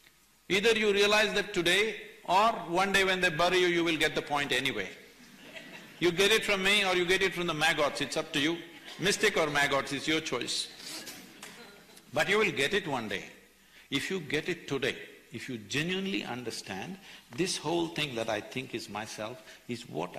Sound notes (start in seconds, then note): 5.2 few laugh; 8.6 few laugh; 11.0 laughs